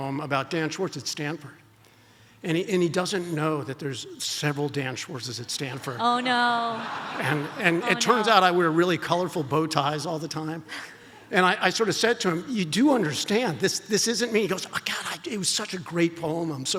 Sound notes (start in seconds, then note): 5.7 audience laughs